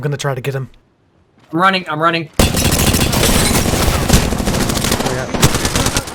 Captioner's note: gunfire